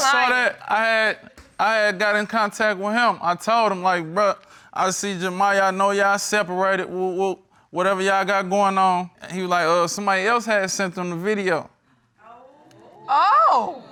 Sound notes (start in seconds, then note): 6.5 stutters